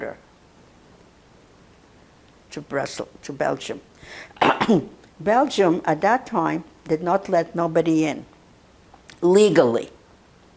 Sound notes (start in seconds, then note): 4.4 clears throat